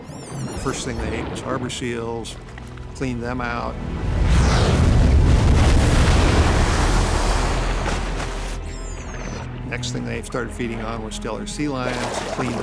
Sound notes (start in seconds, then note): 5.2 splashing